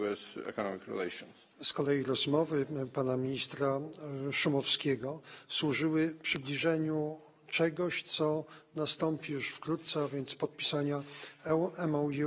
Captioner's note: speaking polish